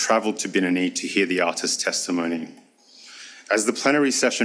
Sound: speaks foreign language

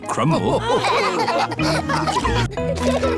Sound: all laughing

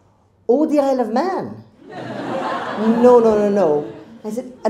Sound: crowd laughs

